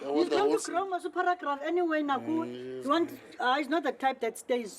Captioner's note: speaking xhosa